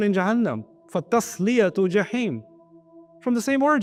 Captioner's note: Arabic